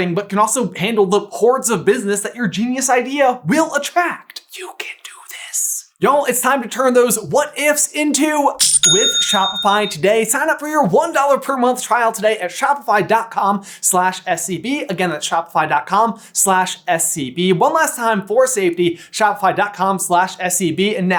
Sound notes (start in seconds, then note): 4.5 whispered enthusiasm; 8.7 cha-ching!